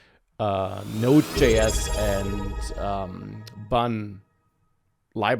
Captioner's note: chiming sound